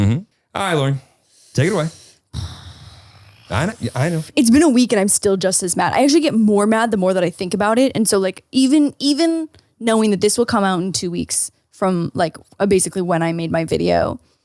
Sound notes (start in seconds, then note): 2.4 groaning